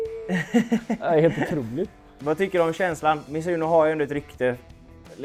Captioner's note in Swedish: skratt